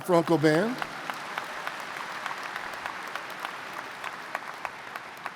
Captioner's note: audience applauds